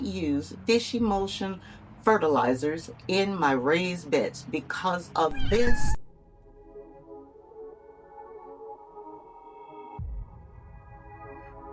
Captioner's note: cat Meow